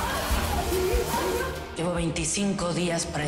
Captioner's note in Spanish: Golpes; Sonido del agua